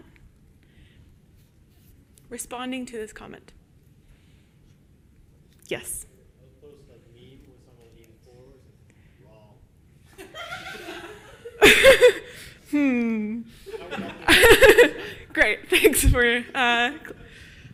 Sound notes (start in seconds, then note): 10.7 audience laughs; 13.7 laughs